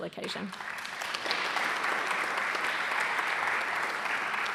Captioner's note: audience applauding